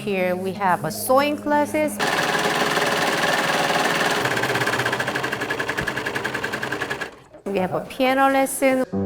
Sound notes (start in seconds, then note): 2.0 sewing machine rattling